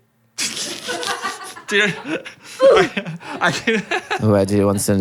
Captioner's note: crew laughing